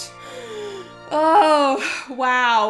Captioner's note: deep inhales